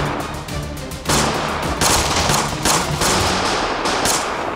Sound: the gunshots continue

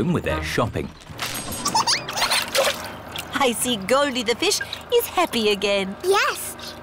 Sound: giggles

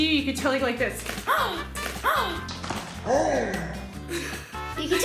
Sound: gasps; laughs

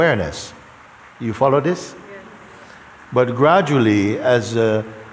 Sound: voices in audience

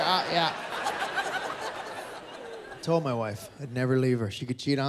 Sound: laughter

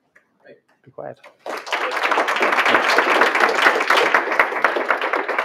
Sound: applause

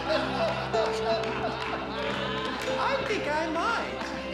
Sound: laughter

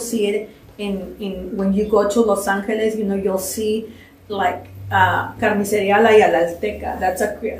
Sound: spanish

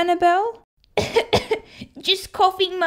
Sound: cough! Cough!

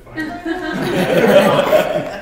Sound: laughter

